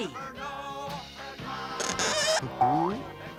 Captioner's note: laughs; Gimmick chuckles